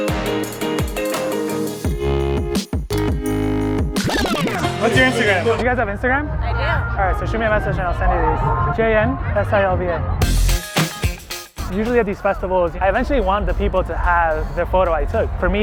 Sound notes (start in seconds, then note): 0.0 instrumental music; 3.8 record scratch